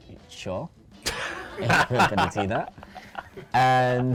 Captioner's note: laughs